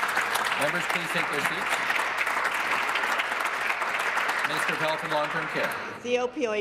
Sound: applause

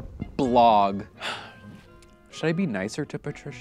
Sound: sighs

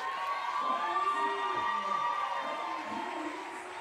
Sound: audience cheering

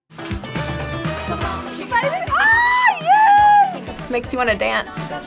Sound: squealing

